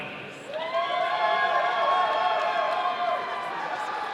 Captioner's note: audience cheering